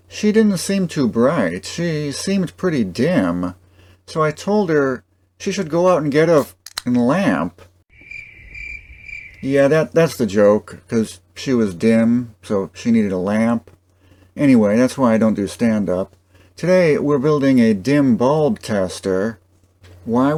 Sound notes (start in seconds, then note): 7.9 cricket sounds